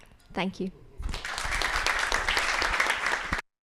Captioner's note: applause